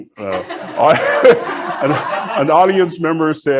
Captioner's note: audience laughs